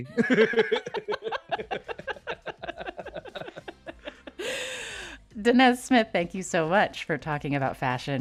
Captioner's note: laughter